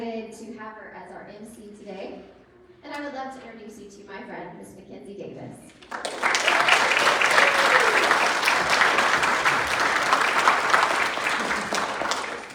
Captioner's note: applause